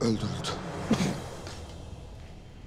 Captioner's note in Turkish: Öksürük sesi